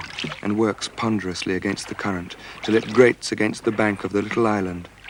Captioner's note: none